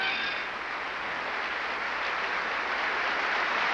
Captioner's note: applause